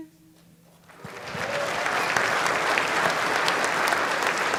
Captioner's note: applauding